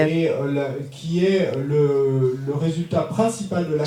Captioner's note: speaking in French